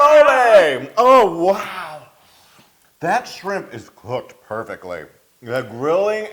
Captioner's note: laugh